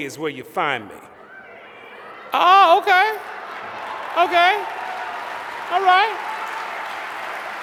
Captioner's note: applause